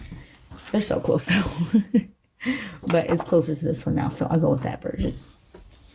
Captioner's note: chuckles